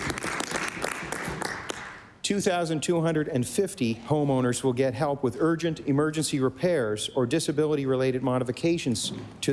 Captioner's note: applause